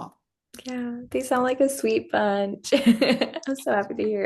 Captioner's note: laughs